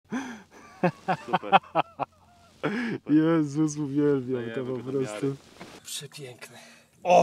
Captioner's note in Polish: śmiech